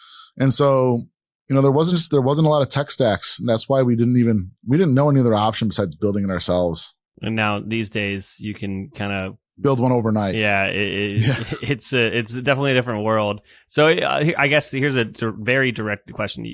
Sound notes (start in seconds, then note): 11.1 laughs